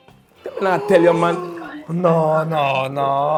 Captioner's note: gasping